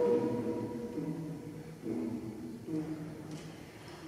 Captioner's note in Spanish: boca cerrada tum tum tum